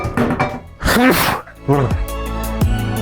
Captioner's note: sneezes in Lithuanian